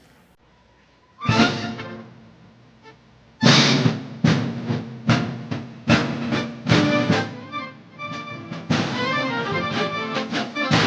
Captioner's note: applause; patriotic Music